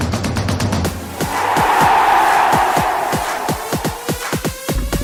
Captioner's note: crowd cheering; high energy music